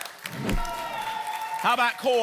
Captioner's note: whoosh